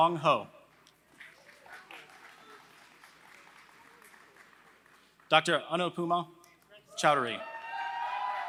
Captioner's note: applause; applause